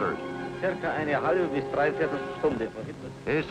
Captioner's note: speaking in German